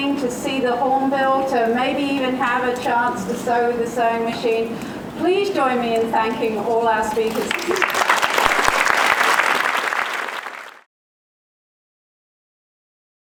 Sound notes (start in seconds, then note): 7.2 applause